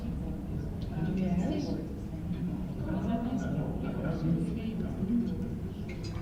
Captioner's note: murmurs from the audience